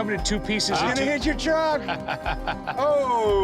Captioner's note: laughs